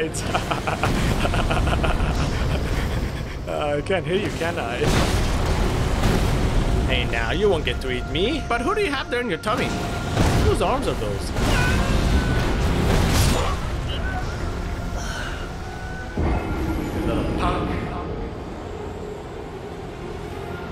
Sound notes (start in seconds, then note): 0.2 breaks into laughter; 3.4 laughter losing steam; 13.2 death groans